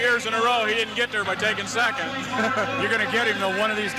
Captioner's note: laughs